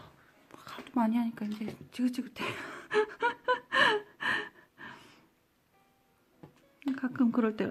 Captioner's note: giggles